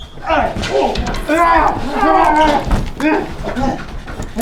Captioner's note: Janus groans